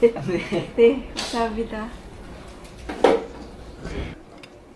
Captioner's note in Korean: 웃음; 콧방귀